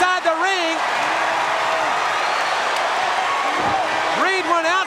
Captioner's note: audience cheering